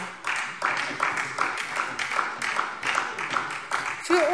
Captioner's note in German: Beifall SPD